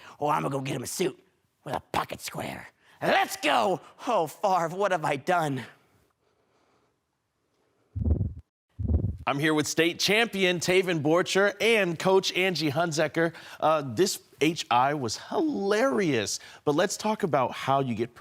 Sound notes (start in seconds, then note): 5.9 silence; 7.9 whoosh